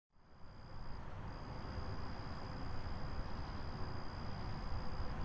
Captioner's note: insects chirping